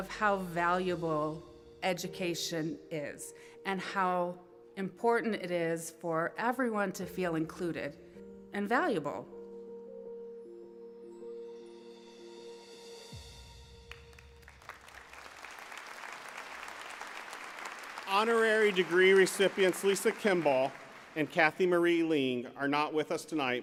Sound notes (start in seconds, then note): 17.5 applause